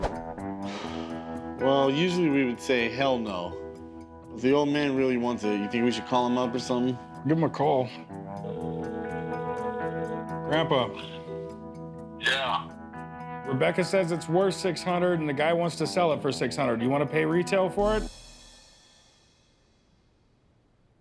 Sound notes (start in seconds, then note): 0.6 sighs; 8.4 line ringing